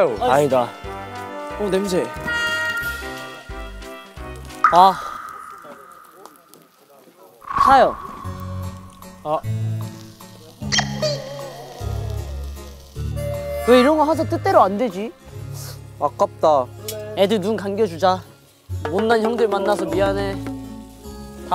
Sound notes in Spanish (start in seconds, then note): 10.6 Cucú